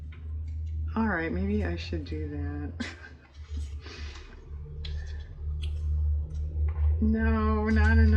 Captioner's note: laughs